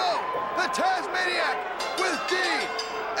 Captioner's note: bell ringing